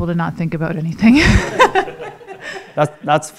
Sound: all laughing

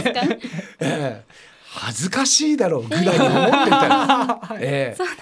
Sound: laugh

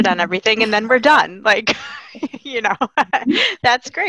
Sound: laughing

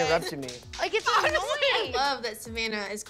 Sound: clapping

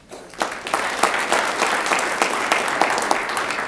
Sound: audience applauds

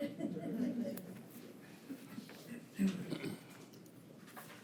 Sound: attendees chuckle

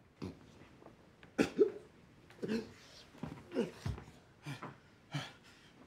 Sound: grunting

